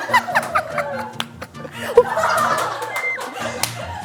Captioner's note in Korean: 박수